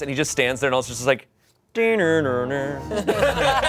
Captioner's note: imitates computer shutdown sound; everyone laughs